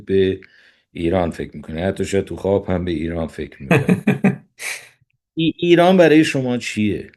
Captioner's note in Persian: خنده